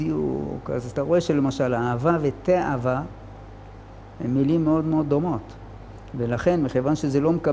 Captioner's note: in Hebrew